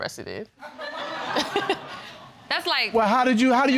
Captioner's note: audience laughing